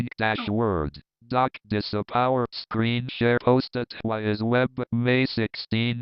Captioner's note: screen reader rushing, skipping